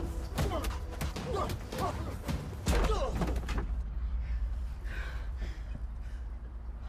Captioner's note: blows thudding; man groaning